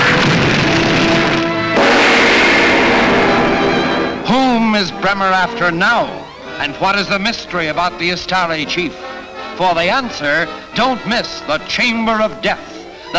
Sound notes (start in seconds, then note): 1.7 gong reverberates; 3.1 dramatic music